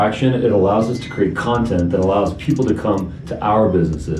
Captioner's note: beep